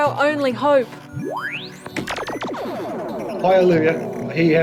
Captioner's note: beeping, droning